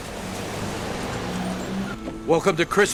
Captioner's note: car rumbles